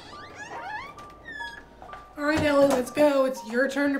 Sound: creaking

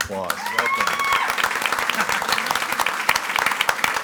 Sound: audience applauding

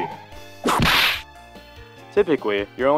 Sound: whip crack

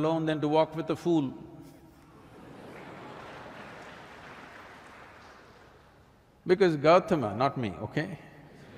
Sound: applause; laughs; laughter

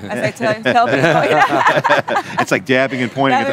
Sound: laughter

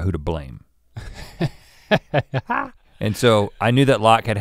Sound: chuckles

